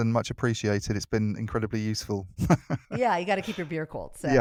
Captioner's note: laughs